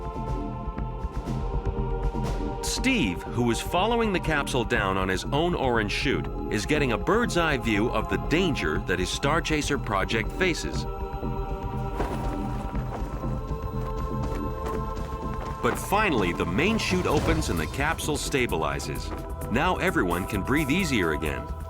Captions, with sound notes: [gentle dramatic music] Steve, who is following the capsule down on his own orange chute, is getting a bird's eye view of the danger that his Starchaser project faces. [gentle dramatic music] [parachute flapping] But finally the main chute opens, and the capsule stabilizes. Now everyone can breathe easier again.